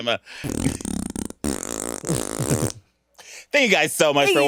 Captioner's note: fart explodes